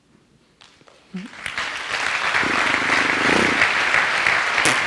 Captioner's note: audience applauds